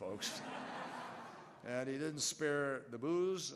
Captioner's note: laughter